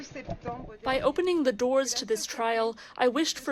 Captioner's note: through translator